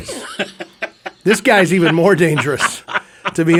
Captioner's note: quietly laughing